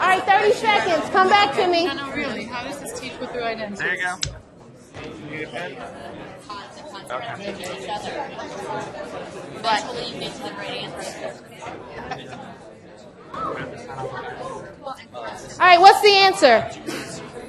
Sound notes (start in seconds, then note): 2.0 mixed chatter